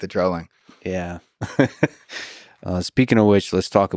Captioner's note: Lex laughs